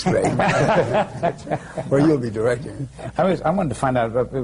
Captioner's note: laughter